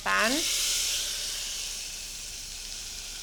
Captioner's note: sizzling